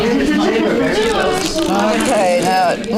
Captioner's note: audience chatter